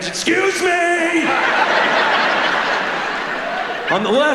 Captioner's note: audience laughing